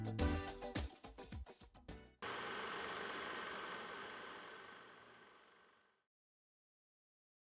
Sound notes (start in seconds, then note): 2.2 projector whirring